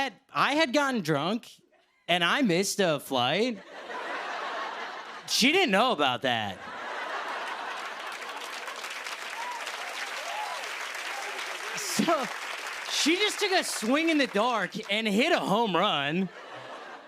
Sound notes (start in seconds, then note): 3.5 laughter; 7.2 applause